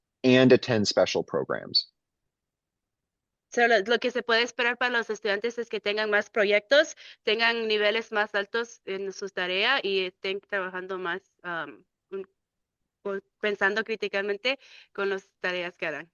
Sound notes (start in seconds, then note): 3.5 speaking in Spanish